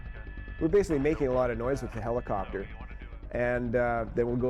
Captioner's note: voiceover